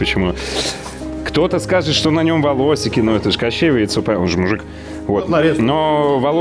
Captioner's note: sarcasm